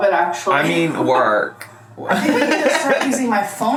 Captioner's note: laughs